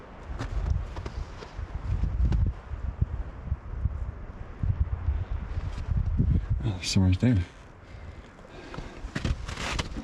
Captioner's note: wind